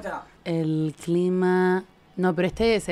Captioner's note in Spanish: voz de reportera